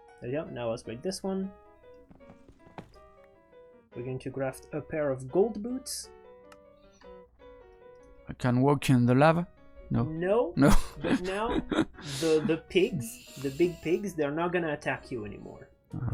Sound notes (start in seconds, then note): 10.7 laughs